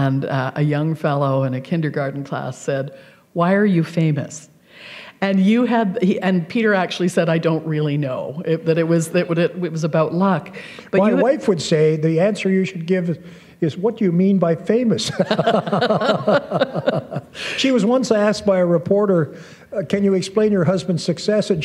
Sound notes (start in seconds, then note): 15.0 laughter